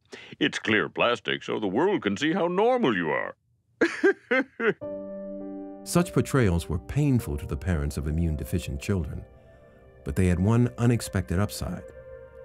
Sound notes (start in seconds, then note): 3.8 laughs